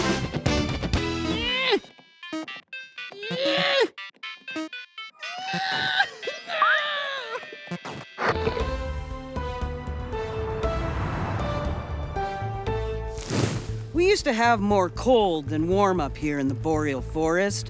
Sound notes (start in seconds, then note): 1.2 Derps grunt; 1.2 video game beeps and sings